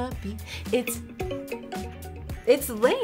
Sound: phone ringing

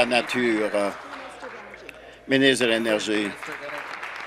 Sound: applause

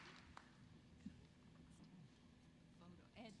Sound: applause

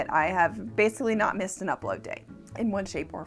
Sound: none

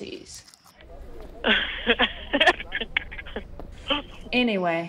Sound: laughs

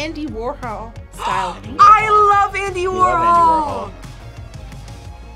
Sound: gasps

